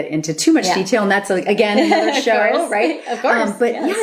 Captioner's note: laughter